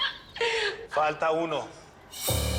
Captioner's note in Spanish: Risas